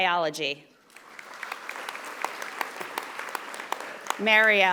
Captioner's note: audience applauding